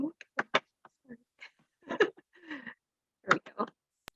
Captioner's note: chuckles